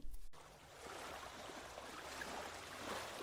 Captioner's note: soft waves crashing